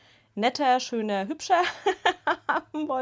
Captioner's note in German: Gelächter